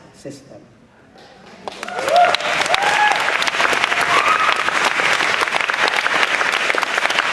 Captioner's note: applause